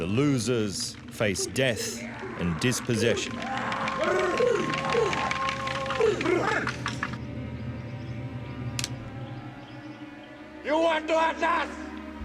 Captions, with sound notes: The losers face death and dispossession. [men taunting] [musket cocking] You want to hunt us?